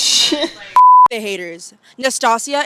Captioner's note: beep